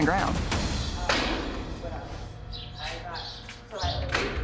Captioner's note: inmates chattering